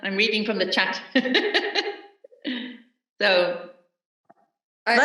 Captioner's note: laughs